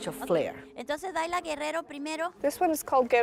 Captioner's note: speaking foreign language